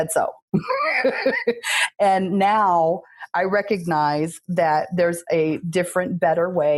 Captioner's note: laughs